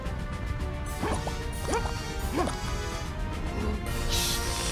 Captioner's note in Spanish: continúa la música valiente; gruñidos entrecortados; Soplado irregular